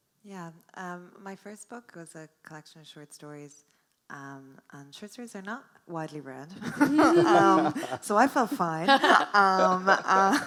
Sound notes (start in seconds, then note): 6.6 laughs